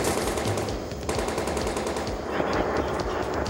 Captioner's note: guns firing